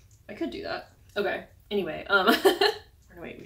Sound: laugh

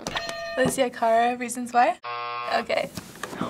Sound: hitting bell; buzzer

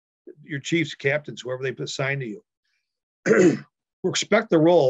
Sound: clears throat

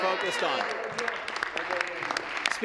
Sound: applause

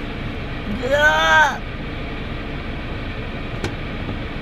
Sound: argh

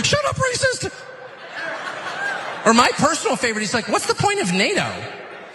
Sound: laugh

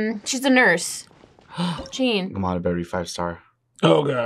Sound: gasps

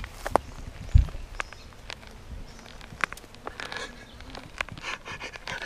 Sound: knee popping and grinding; laughing

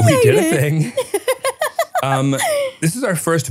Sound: laughs

